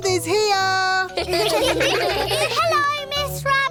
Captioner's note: children giggle